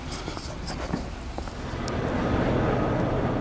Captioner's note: another whoosh